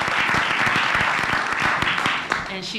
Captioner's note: applause